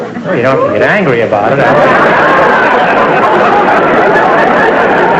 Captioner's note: audience laughter